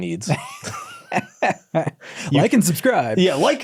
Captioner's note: both laughing